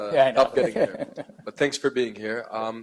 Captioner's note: laughing